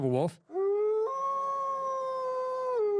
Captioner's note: wolf howl